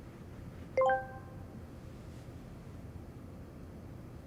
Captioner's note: machine beeps